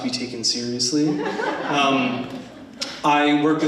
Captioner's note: attendees laughing